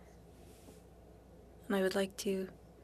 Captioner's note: speaking french